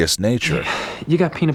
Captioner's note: sigh